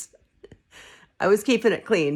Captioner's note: laughing